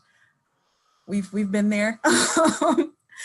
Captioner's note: laughing